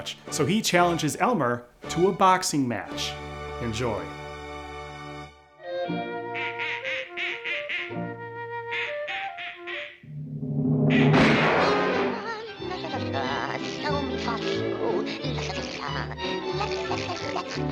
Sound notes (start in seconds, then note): 6.2 ducks quacking; 6.2 gentle music; 10.6 suspenseful music; 11.0 gun fires; 12.0 gentle music; 12.0 Daffy vocalizing